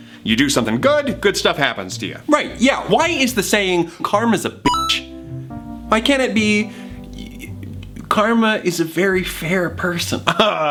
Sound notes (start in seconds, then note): 4.6 beep